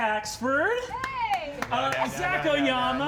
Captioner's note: clapping